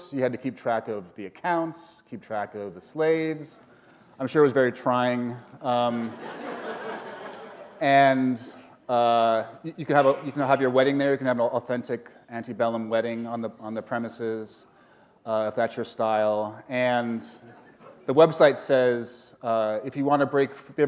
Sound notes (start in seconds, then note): 5.8 laughter